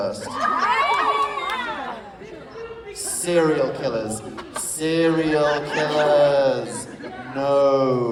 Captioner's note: some audience members cheer